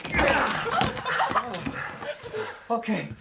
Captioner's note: laughing and cheering